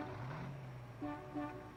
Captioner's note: horns honking